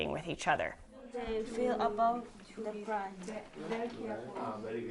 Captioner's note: chatting